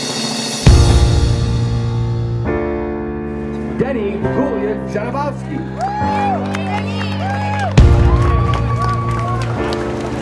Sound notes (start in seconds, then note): 0.7 piano chords; 8.0 clapping